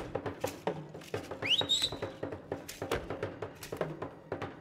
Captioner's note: shouting and drum beating; whistling; drum beating and beads rattling